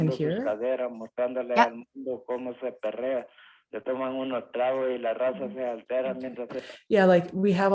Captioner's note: man speaking in Spanish continues